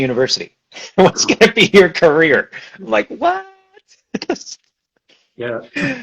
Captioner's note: laughs